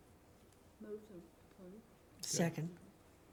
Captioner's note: voice is muffled